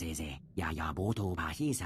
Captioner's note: speaking Japanese